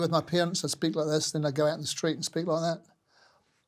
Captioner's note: in Australian accent